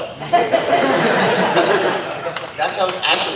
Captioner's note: audience Laughter